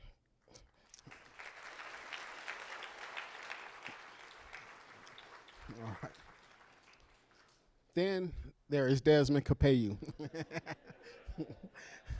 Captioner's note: applause